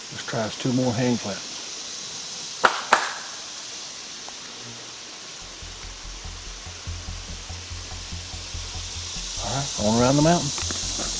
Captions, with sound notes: Let's try two more handclaps. (claps) (dramatic music) All right, on around the mountain.